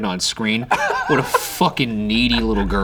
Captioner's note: laughing